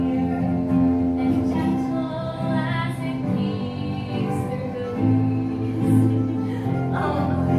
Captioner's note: laughs